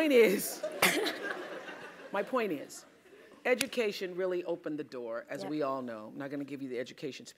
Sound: laugh

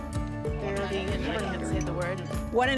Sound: chatter

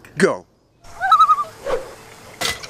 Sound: loon calls

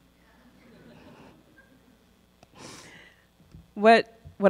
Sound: crowd chuckles

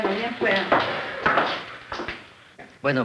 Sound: speaking Spanish; footsteps

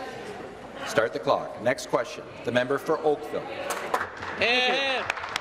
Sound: applause

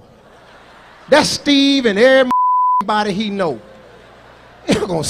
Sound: beep

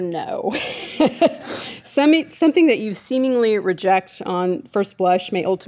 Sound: laughing

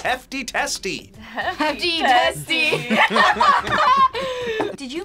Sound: laughs

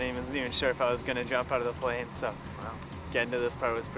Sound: voiceover

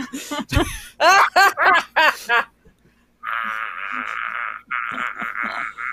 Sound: laughing in unison

